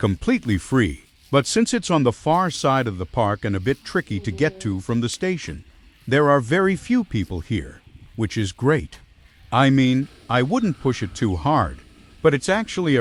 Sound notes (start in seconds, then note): 9.1 laughs